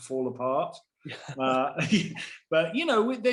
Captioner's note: both chuckling